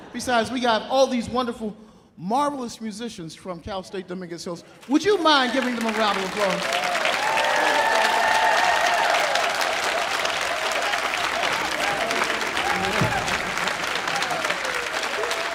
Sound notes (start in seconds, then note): 6.7 audience applauding; 6.7 audience cheering